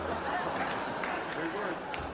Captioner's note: audience laughter